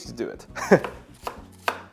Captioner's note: chuckles